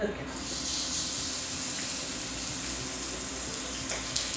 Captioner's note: sizzling